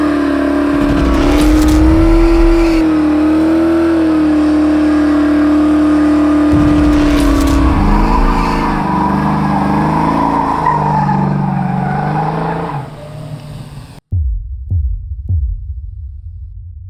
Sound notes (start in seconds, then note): 0.6 wheels spinning; 6.5 dull pounding effect